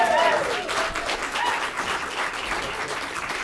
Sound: cheering and applause

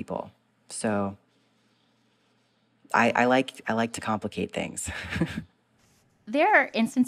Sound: laughter

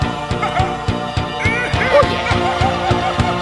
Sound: more laughter

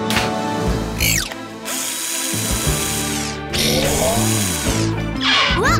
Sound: drill running

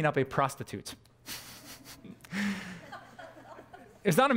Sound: pastor: Laughter

